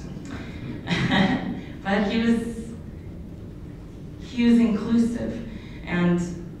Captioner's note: laughs